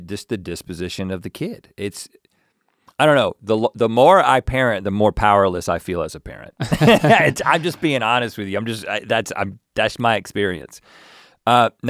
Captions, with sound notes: just the disposition of the kid. It's... I don't know, the more I parent the more powerless I feel as a parent. (both laugh) I'm just being honest with you. That's my experience.